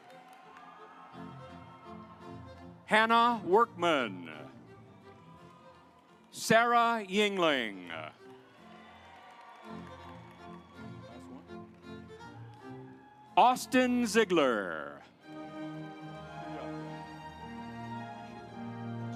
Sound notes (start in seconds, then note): 0.0 audience applauds; 4.8 stately music; 8.1 audience applauds; 16.1 stately music